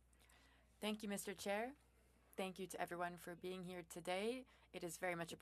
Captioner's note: speaking French